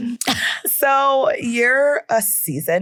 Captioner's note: laughing